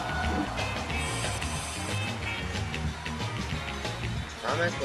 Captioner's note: crowd Cheering